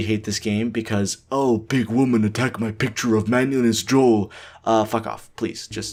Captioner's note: caveman voice